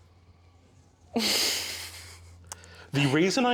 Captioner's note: laughs